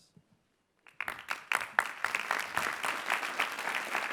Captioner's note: clapping